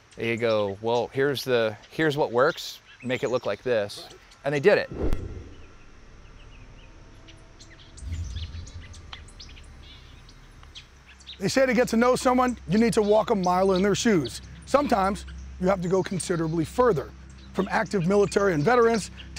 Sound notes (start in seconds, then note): 6.9 birds chirping